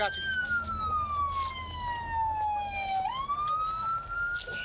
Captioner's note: siren wailing